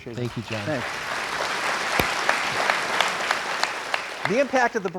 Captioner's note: crowd applauds